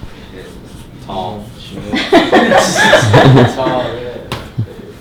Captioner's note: group laughter